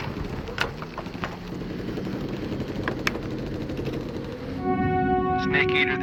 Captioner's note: guns firing distantly